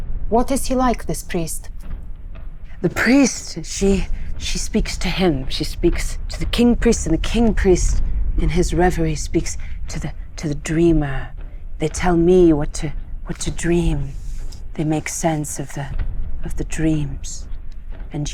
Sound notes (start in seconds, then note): none